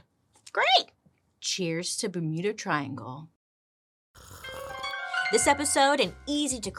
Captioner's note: slurps